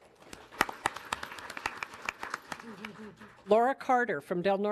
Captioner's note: audience applauding